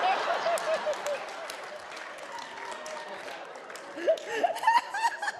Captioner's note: everyone laughing